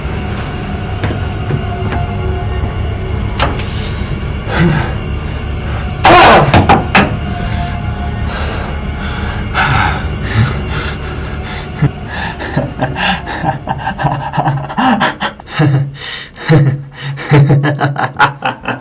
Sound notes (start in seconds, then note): 5.6 russell yells, cup hits wall; 8.2 deep breaths; 12.4 painful laughter